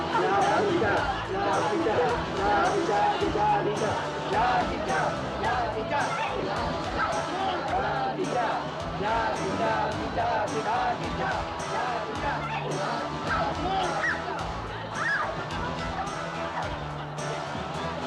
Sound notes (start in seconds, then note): 15.0 girl screaming